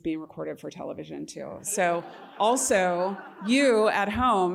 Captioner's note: laughter